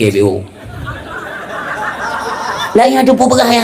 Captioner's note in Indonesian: tertawa